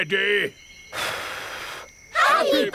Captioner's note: blows